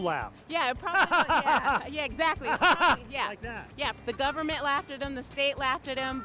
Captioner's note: laughs